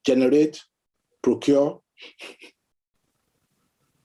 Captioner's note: scoffing